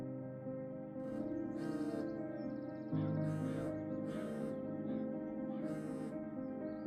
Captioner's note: phone buzzing